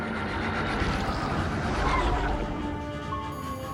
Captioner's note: tire squeal